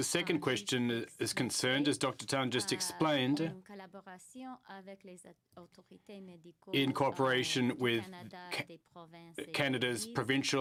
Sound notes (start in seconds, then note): 1.7 speaking French